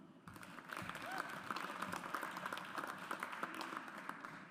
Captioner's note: audience applauds